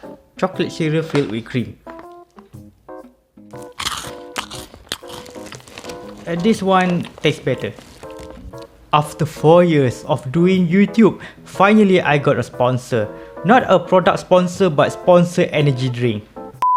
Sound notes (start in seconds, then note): 3.5 much munch; 16.6 beep